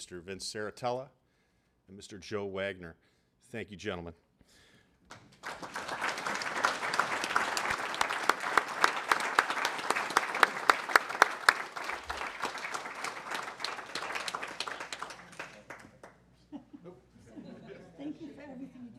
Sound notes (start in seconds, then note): 5.0 applause